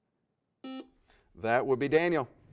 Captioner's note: buzzer sounds